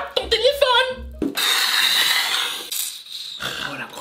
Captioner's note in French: Imite le feulement du chat